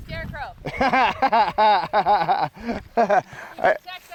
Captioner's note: laughing